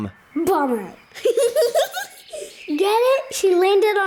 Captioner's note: laughs